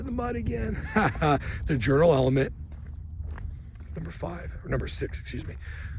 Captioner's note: laughs